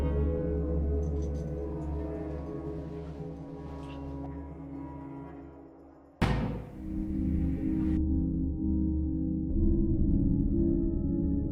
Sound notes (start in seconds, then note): 6.2 door shuts outside